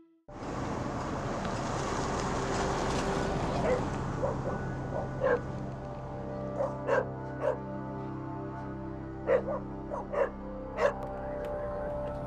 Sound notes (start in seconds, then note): 4.1 dogs barking